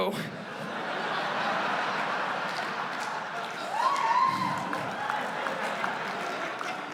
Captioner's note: laughter